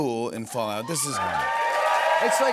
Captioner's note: cheers and applause